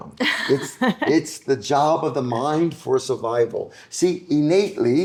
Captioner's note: laughing